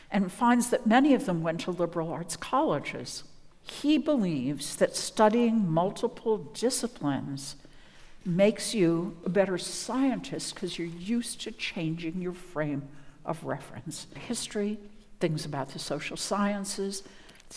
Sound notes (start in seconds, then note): none